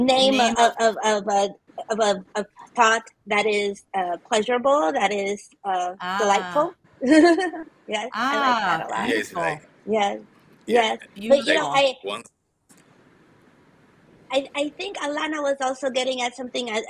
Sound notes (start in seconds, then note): 6.0 laughs